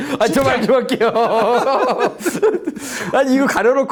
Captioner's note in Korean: 웃음